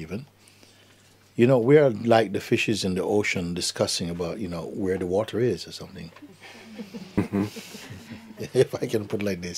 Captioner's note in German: Lachen